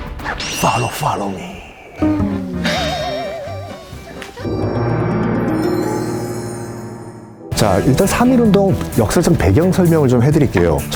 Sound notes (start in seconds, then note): 1.8 laughing; 2.0 can't stop laughing